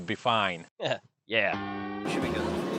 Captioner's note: laughs